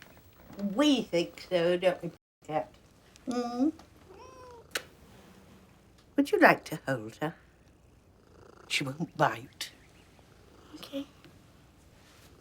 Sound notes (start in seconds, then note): 4.0 meows